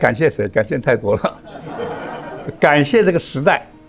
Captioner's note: laughs